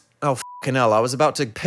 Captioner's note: beep